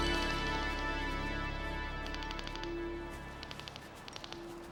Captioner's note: detectors clicking